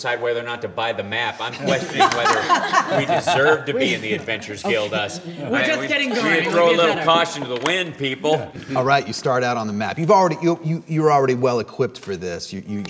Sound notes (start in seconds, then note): 1.4 laughter